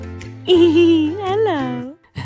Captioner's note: laughing